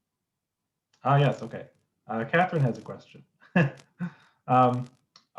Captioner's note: laughs